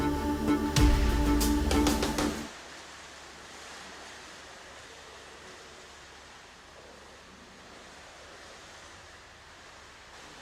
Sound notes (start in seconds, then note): 5.0 running water